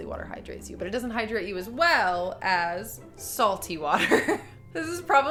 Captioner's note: laughs